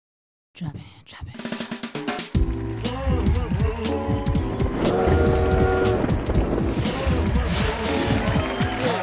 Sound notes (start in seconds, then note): 2.4 cheering and applause; 4.8 train whistle blows